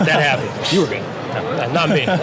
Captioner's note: laughs